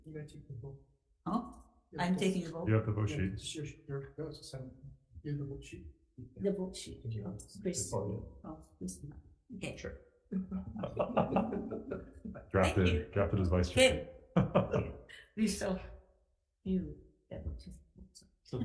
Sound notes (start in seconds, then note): 10.8 legislators laughing